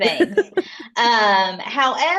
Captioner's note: laughs